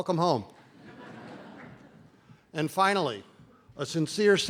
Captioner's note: laughter